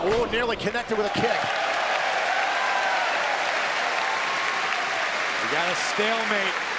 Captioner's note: cheers and applause